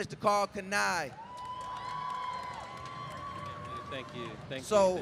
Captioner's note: crowd cheering